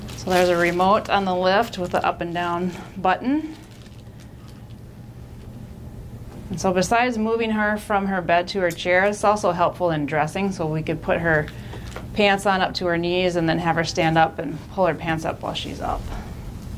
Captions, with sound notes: So there's a remote on the lift with a up and down button. (machine humming) And so besides moving her from her bed to her chair, it's also helpful in dressing, so we could put her pants on up to her knees, and then have her stand up and pull her pants up while she's up.